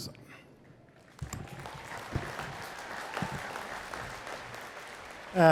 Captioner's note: attendees clapping